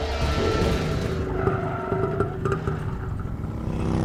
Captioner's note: brakes screech